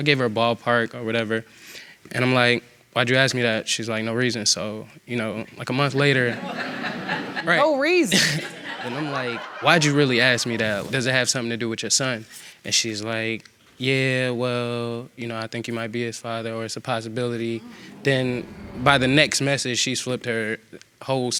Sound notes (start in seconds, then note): 6.0 audience laughing; 6.2 laughing